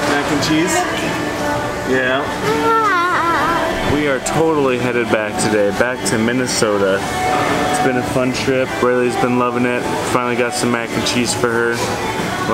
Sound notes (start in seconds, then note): 2.4 vocalizing